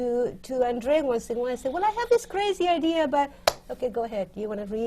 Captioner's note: claps